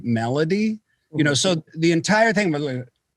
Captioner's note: poof